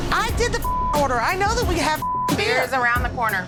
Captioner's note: beep